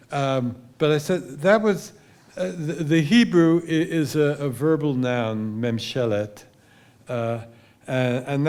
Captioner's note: hebrew